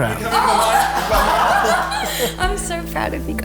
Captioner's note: laughing